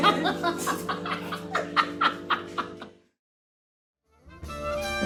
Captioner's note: laughs